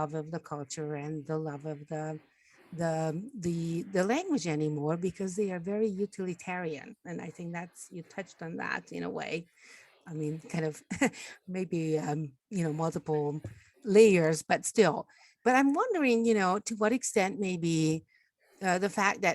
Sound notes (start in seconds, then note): 10.6 laughs